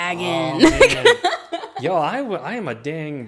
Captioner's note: laughing